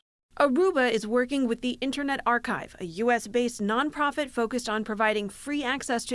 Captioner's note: voice-over